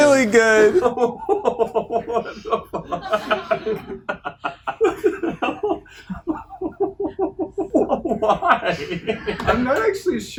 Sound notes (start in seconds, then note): 4.4 laughing; 8.7 all giggling